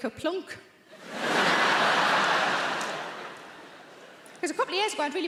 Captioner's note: audience laughing